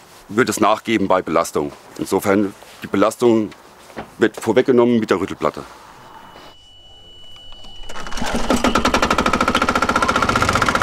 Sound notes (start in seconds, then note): 8.2 chattering